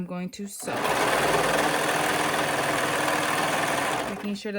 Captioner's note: sewing machine roaring